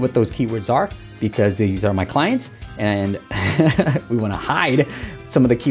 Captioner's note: laughs